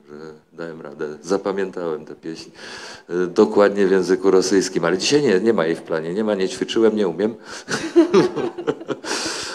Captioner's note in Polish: śmiech